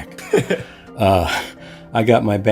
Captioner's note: chuckling